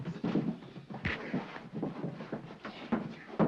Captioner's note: sounds of struggling